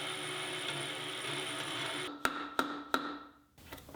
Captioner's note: machine whirring